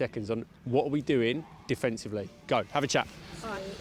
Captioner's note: players chatting